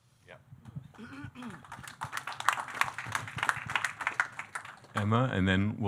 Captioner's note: audience clapping